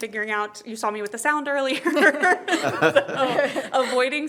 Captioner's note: laughs